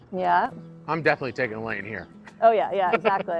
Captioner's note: chuckles